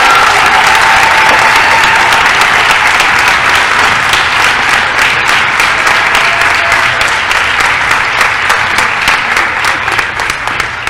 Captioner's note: applause